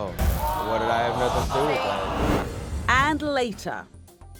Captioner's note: audience groaning